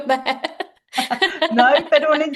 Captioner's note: laughter